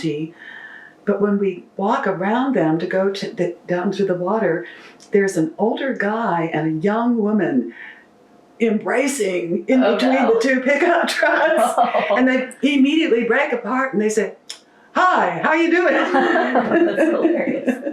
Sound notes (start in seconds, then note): 11.2 laughter